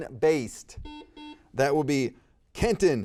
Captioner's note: buzzer beeping